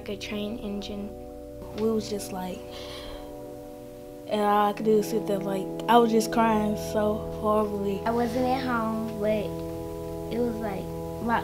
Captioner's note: big gasp